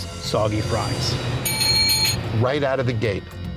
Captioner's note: bell rings